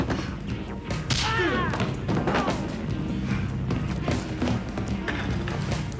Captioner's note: groans; slap; thud; groans